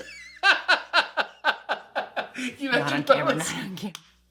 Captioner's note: laughter